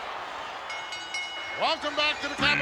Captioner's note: bell rings